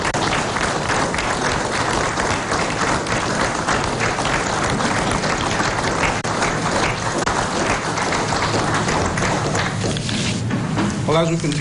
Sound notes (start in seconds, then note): 5.0 applause